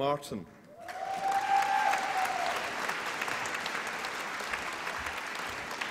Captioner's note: applause and cheering